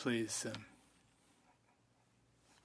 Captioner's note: speaking French